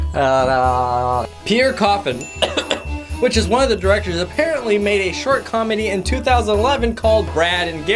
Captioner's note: coughs